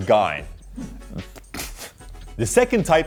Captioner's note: laughs at own joke